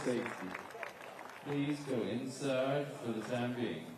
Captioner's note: applause